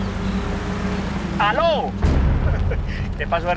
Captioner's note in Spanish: Ríe